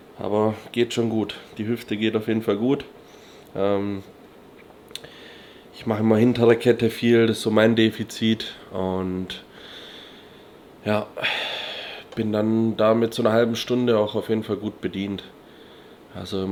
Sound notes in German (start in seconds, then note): 9.5 japst; 11.1 seufzt